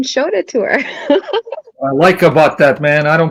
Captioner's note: laughing